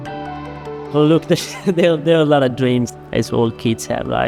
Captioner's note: laughing